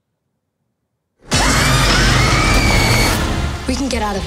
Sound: growling; screams

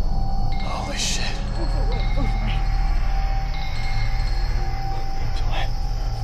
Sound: people muttering in foreign language

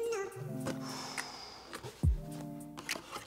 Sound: exhaling excitedly

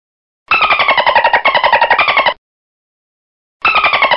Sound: dolphin squeaking

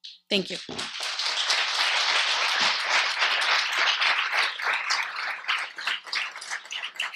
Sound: audience applauds

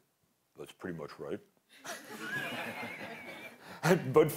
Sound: laughter

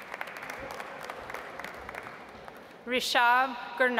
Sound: audience applauds

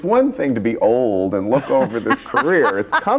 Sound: laughs

